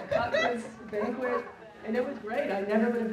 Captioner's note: audience laughing